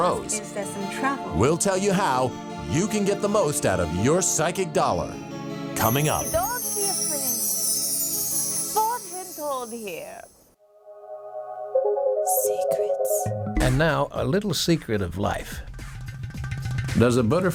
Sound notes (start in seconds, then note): 7.9 woman speaking in foreign language; 11.0 bright upbeat music